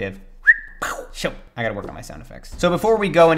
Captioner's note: whistling